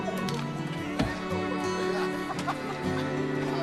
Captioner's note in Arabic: ضحك